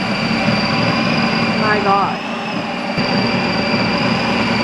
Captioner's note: Ninja Creami thrumming